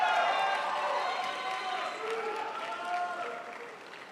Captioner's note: crowd applauds